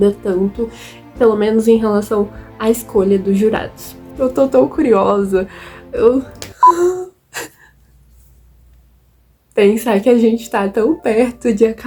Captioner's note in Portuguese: suspiro